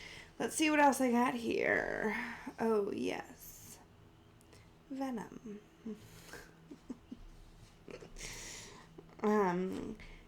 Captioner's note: laughs-scofflike